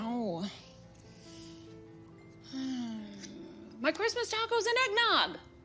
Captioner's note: sighs